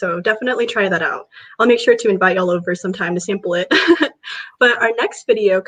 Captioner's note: laughs